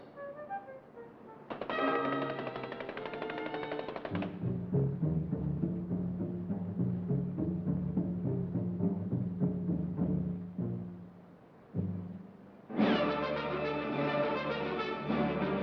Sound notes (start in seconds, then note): 1.5 knocking